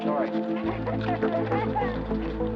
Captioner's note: laughing